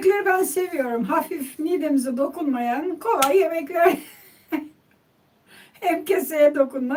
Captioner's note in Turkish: kahkaha